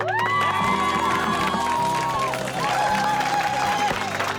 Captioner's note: cheers and applause